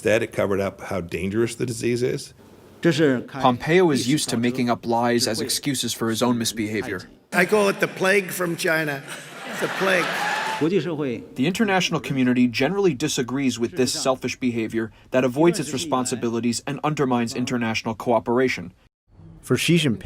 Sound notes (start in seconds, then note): 3.2 speaking foreign language; 8.7 audience laughing; 11.0 speaking foreign language